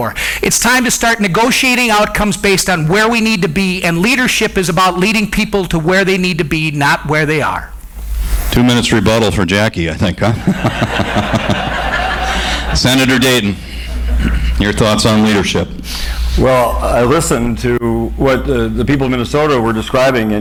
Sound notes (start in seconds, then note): 10.1 audience, moderator laugh